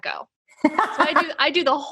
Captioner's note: laughing